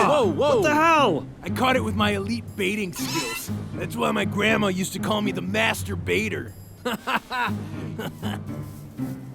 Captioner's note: laughs